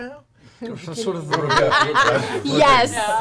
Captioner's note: all laugh